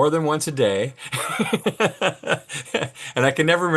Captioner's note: laughs